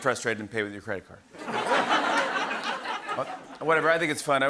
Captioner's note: laughter